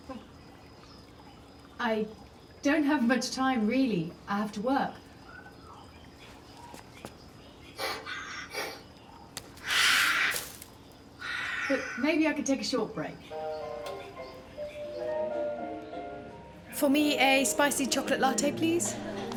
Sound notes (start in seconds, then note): 9.5 lizard hissing; 13.3 light jazzy music